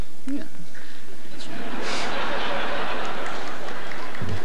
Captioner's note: audience laughter